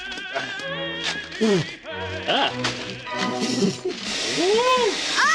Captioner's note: Rhett spluttering; cracking up